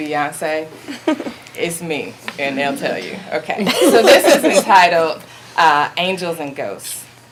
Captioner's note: audience laughing